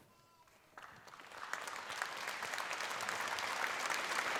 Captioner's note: applause